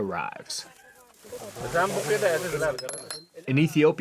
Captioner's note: indistinct chatter